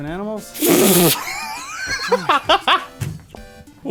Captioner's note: pfft; laughter